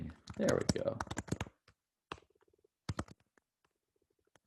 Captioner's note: keys clicking